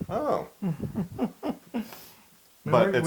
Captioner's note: laugh